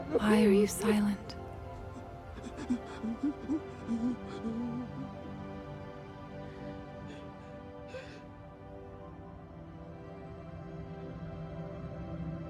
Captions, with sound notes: Why are You silent? ( whimpering )